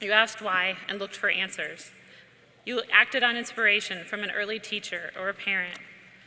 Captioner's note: none